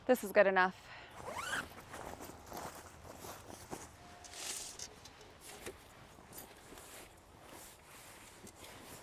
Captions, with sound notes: This is good enough. (zipper whizzes) (bag rustling)